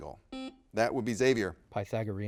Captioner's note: buzzer beeps